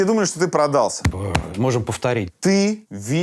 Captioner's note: knocks on chest